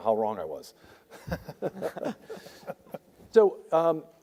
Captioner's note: panel members laugh